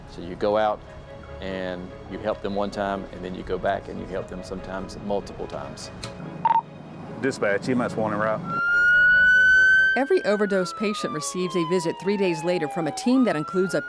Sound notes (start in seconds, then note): 8.2 siren wailing